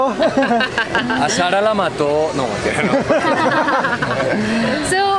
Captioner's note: laughter